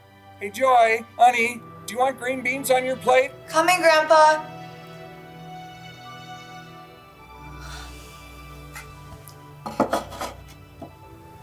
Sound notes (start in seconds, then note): 5.4 Joy sighs